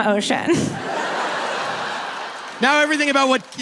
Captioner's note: audience laughing